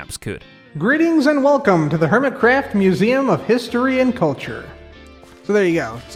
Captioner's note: echoing